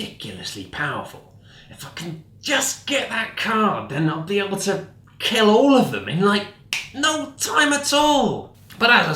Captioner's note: snaps